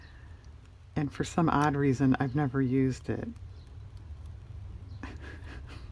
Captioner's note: laughs